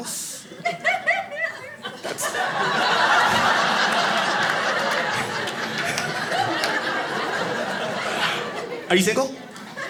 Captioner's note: audience laughing